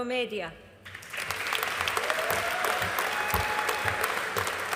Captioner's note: audience applauding